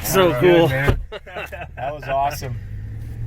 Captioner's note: chuckling